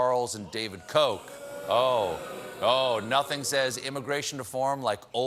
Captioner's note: booing